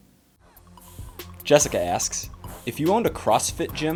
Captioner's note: voiceover